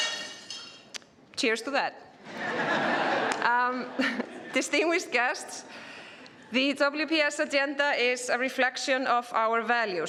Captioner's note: laughter